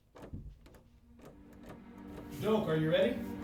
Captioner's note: door handle rattles